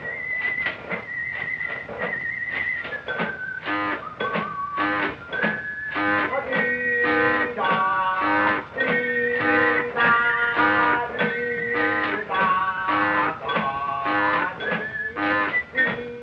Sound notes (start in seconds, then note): 3.6 horn tooting; 5.0 bell dinging; 7.0 chico humming